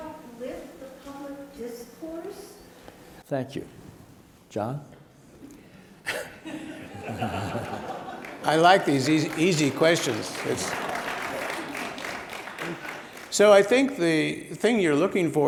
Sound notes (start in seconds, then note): 6.2 audience laughs; 11.3 audience claps